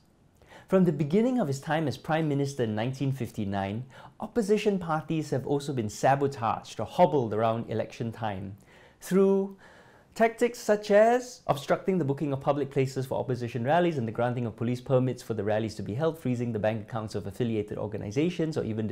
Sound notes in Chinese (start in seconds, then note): 9.5 深呼吸